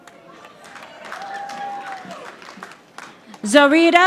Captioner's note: audience applauding